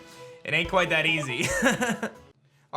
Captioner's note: laughs